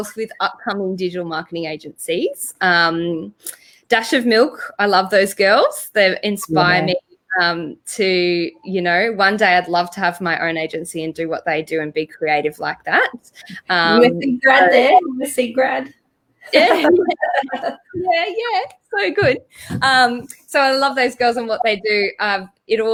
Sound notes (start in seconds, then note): 16.5 both chuckle